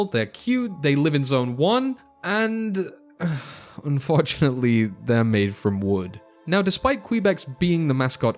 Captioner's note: sighs